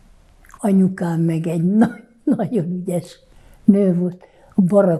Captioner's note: laughing